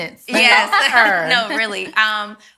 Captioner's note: ladies laughing